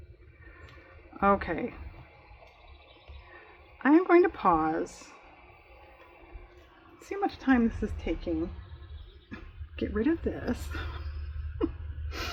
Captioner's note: laughs